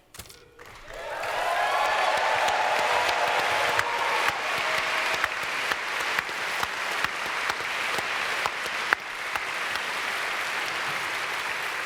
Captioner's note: audience cheers